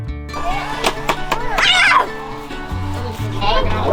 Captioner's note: chattering